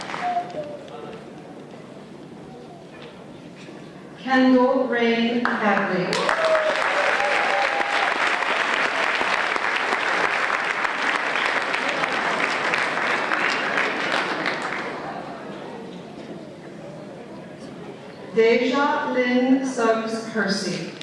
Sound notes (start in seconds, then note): 6.0 applause